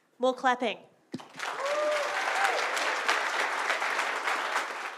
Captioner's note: audience applause